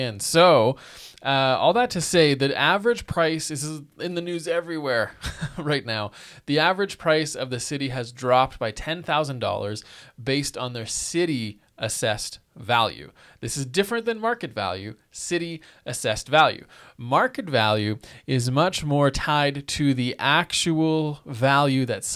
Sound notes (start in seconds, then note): 5.1 chuckling